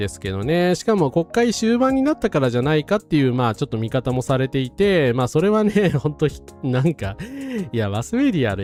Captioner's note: laughs